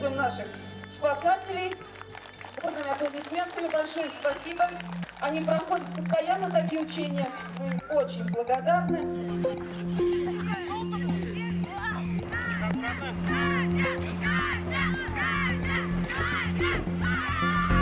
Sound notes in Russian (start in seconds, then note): 13.0 скандируют